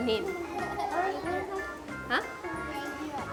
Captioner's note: murmurs